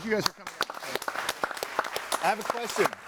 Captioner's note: audience applauding